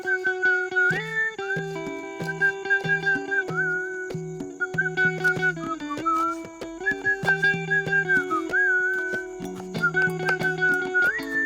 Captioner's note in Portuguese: assovio